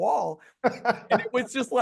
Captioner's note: interviewer laughing